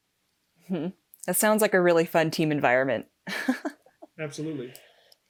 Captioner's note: laughing